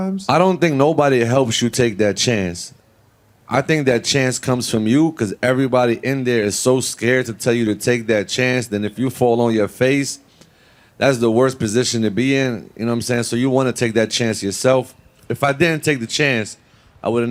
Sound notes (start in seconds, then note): none